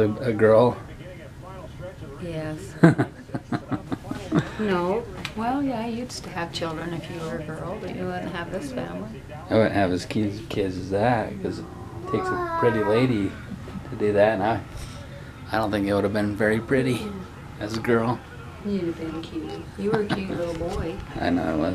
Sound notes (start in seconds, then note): 2.8 laughter